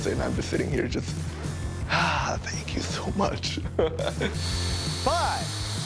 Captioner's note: laughing